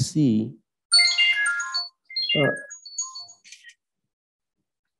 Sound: phone ringing

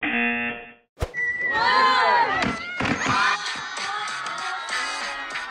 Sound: crowd; cheering

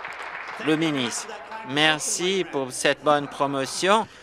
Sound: applause

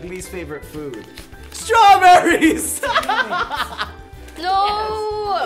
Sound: laughing

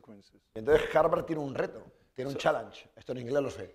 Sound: speaking spanish

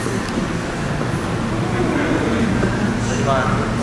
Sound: howling

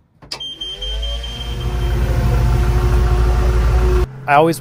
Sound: engine revving

